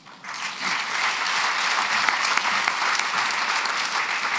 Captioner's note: applause